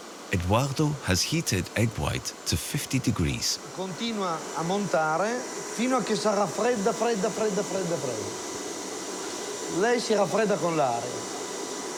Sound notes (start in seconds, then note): 3.8 speaks in foreign language